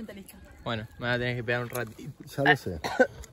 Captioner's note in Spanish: se ahoga